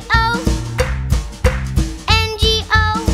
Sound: clap

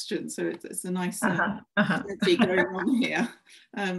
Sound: laughs

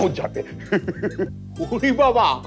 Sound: laughs

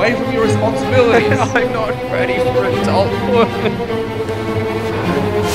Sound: sobbing

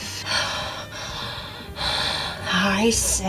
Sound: breathes heavily

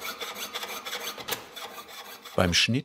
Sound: sawing noises

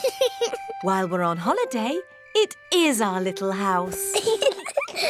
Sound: george laughs; both laugh

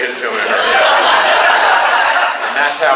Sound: class laughs

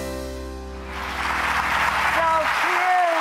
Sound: audience applause

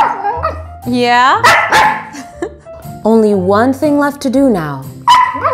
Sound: laugh

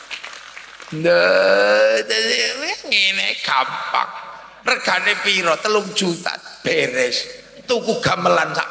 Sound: applause

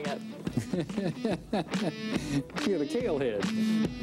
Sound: man laughs

